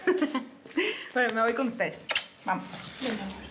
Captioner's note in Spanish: risas